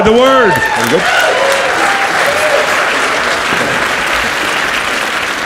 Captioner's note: audience cheers and applauds